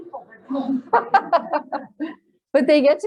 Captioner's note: laughter